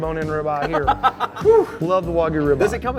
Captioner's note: laughing